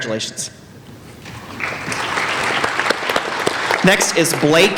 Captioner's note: applauding